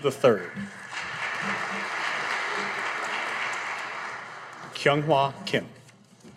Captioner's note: audience applauding